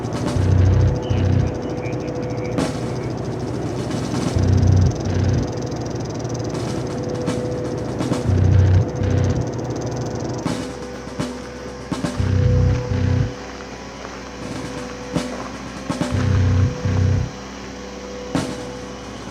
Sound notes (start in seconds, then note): 1.0 sounds of agents over microphones, and feet moving in the brush